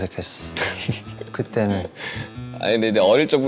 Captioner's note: haha